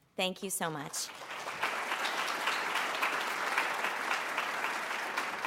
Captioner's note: applause